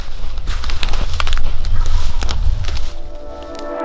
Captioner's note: leaves crunching